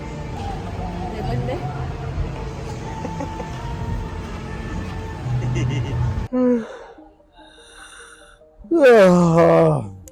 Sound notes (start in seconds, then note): 1.2 Spanish; 2.6 giggle; 6.2 yawns